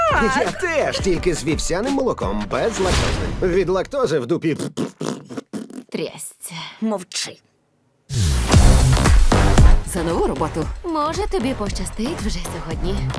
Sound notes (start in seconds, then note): 4.0 mimics rhythmic defecation sounds; 8.2 lively music playing